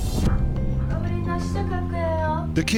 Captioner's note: speaking korean